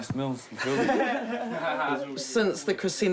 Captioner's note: laughing